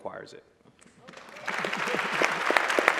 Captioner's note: applause